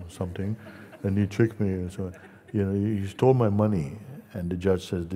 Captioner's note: Lachen